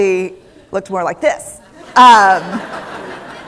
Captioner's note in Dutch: Gelach